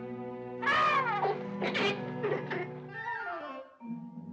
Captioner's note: whimsical music; animal noises; whimsical music